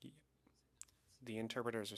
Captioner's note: speaking French